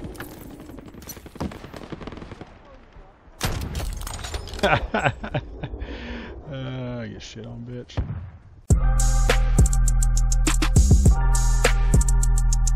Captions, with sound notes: *laughs* Awww...get shit on, bitch.